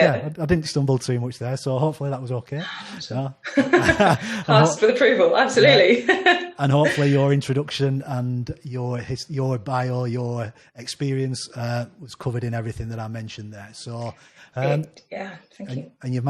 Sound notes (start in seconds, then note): 3.4 both laughing; 5.6 laughs